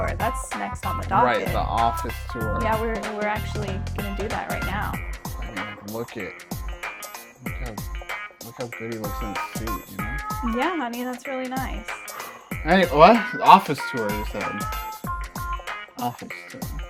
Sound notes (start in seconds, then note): 5.1 quietly; 12.0 heavy exhale